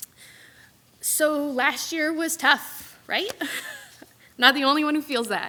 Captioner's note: laughs